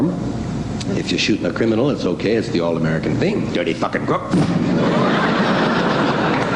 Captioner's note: gun noise